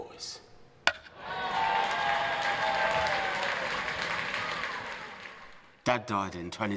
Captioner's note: crowd cheering